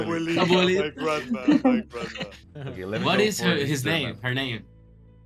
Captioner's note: laughs